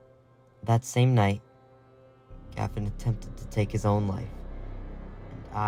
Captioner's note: voiceover